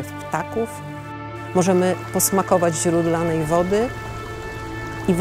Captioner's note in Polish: w tle szum płynącej wody